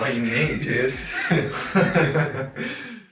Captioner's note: chuckling